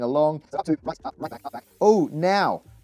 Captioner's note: sped up audio